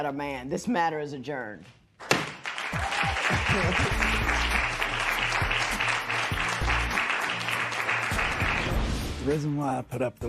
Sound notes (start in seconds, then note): 2.1 applause